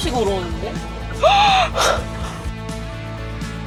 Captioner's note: shock